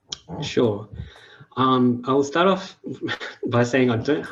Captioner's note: chuckles